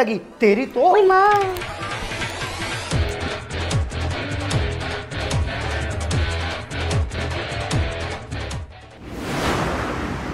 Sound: quarreling

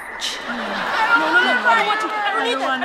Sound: yelling

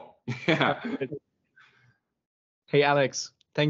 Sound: laughs

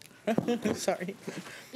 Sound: laughing

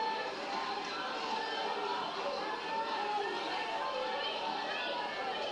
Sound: people screaming and clamoring

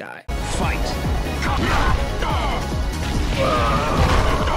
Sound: Raven groaning

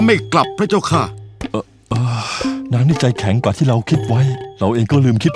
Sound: sigh

